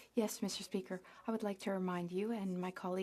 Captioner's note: speaking French